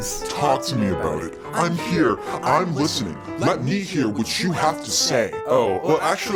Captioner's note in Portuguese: Voz distorcida